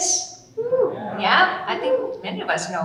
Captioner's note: audience cheering